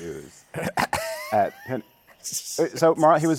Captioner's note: laughs